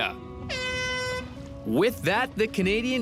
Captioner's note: air horn blaring